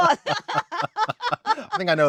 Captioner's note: laughing